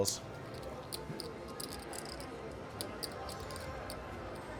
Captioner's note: soft clacking